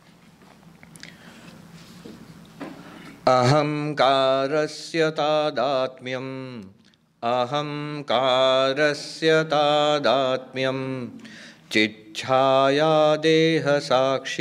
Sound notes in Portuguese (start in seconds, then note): 3.2 Recitando verso do livro em sânscrito